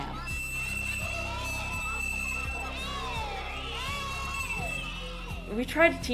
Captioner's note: children shouting